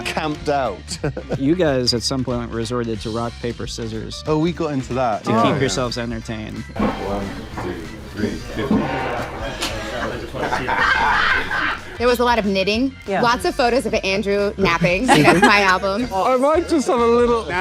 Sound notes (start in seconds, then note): 10.5 Daniel and Josh O'Connor laughing